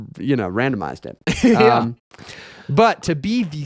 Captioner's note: laughing